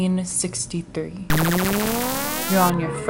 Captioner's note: time warp sound